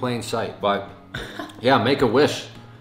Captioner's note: chuckling